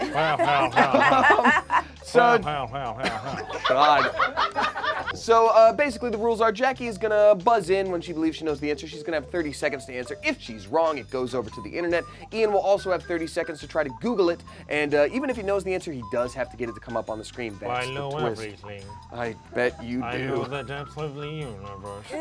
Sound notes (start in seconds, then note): 0.0 group laughs; 0.0 laughs robotically; 3.0 group laughs; 3.0 laughs robotically